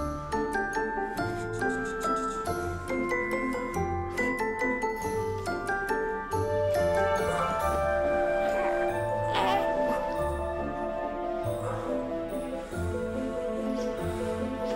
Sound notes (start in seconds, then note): 9.2 baby cooing